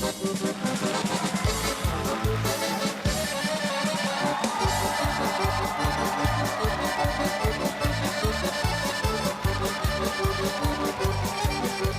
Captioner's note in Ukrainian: оплески